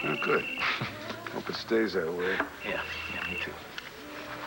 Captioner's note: phone rings